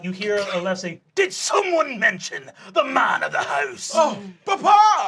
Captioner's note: pirate voice